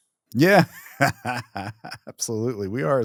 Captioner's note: laughs